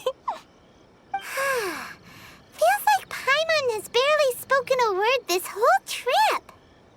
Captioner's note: sigh